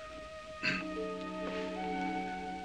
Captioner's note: potts clears throat